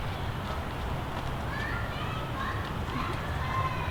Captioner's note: distant children's voices